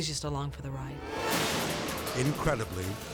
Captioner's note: dramatic whoosh